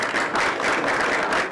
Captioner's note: applause